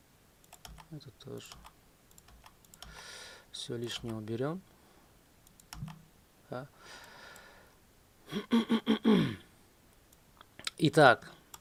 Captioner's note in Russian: кашель; откашливается